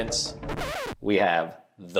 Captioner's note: record scratches